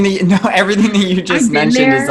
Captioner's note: laughs